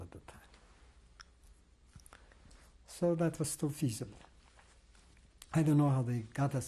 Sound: pauses for 3 seconds

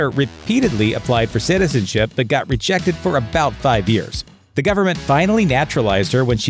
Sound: fast hockeyman talking

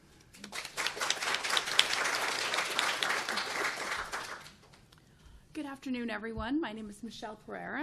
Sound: applause

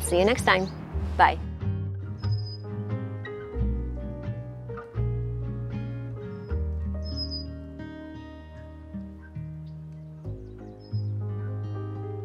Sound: birds chirping, light music playing

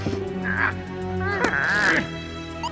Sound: grunts angrily

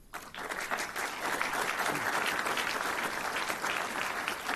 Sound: audience clapping

